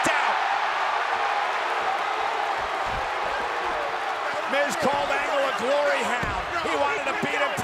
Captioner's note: applause